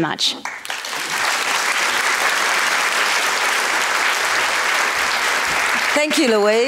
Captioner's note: applause